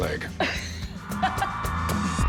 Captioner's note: laughs; cheers and applause; pop music